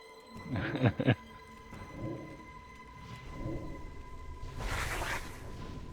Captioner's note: laughs